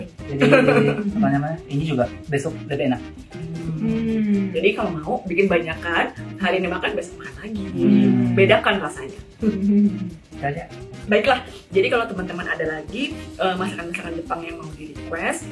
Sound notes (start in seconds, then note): 7.6 laughs